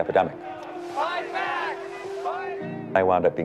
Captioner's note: crowd